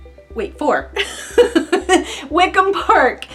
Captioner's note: laughing